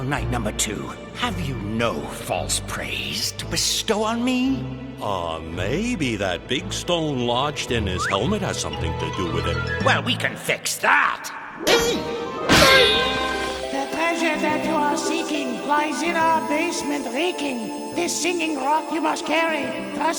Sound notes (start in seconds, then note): 13.3 thudding